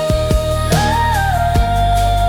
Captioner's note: humming